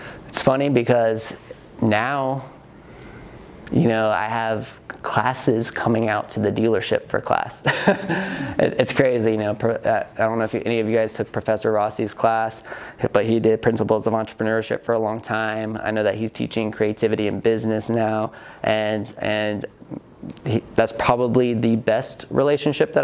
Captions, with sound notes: It's funny because now, you know I have classes coming out to the dealership for class. (laughs) It's crazy. I don't know if any of you guys took Professor Rossi's class, but he did principles of entrepreneurship for a long time. I know that he's teaching creativity in business now. That's probably the best relationship